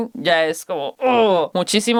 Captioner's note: grunts